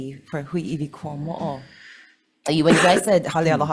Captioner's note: speaks foreign language